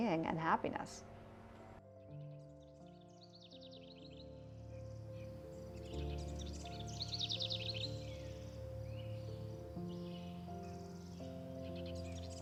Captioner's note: birds chirping